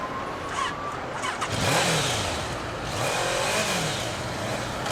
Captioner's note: motor revving